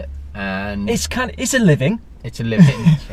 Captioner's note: laughs